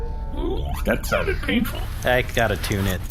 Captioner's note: plays a metallic sprong